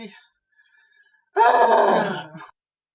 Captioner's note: huge sighs